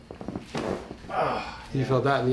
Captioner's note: man groans